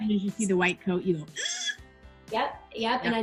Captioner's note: shrieks